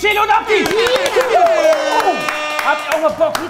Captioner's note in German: Jubel, Tröten, Applaus